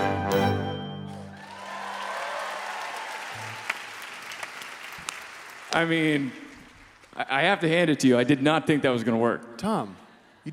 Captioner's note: applause